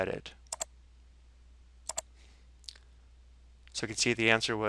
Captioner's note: mouse clicking